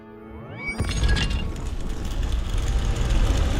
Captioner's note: doors rumbling